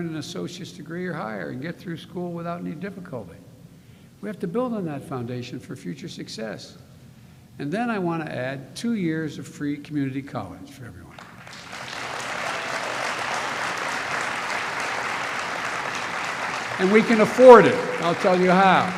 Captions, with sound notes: an associate's degree or higher, and get through school without any difficulty. We have to build on that foundation for future success. And then I want to add two years of free community college for everyone. (Applause.) And we can afford it. I'll tell you how.